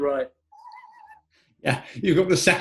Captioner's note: sniggering